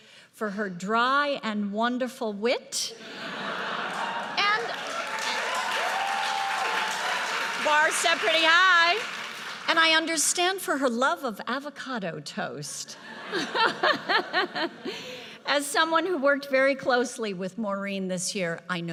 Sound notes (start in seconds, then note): 3.0 audience laughs; 3.8 audience cheers and applauds; 13.0 audience laughs; 13.1 laughs